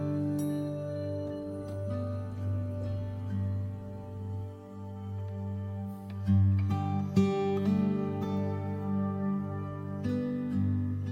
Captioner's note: elevator dings